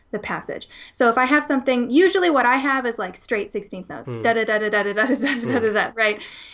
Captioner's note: humming 00:03:15